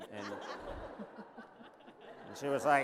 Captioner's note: laughter